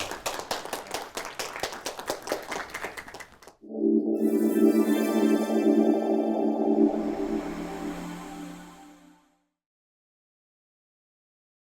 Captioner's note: applause